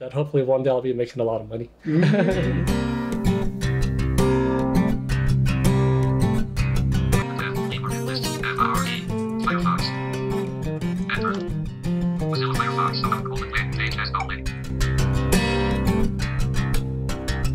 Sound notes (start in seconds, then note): 1.8 laughing; 8.4 computer talking